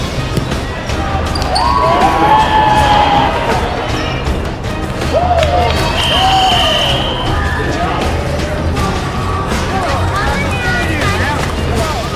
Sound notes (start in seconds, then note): 2.1 loud cheering; 7.4 whistle blowing